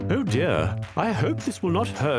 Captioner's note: voiceover